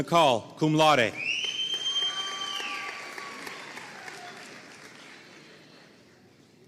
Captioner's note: audience cheering and applauding